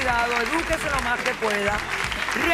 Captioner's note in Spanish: aplausos